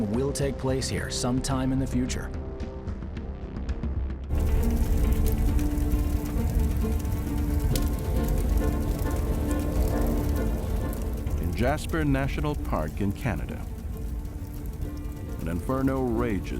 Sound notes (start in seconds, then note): 4.4 dramatic music; 4.4 fire crackling